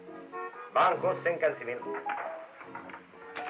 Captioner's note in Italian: lingua francese